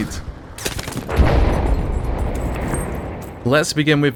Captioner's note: bomb explodes